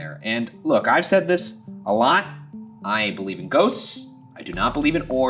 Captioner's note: none